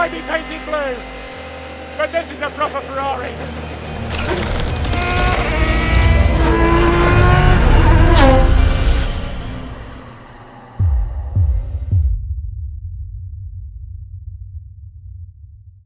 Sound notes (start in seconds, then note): 4.9 engine roaring